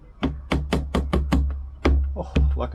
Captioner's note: wood thumping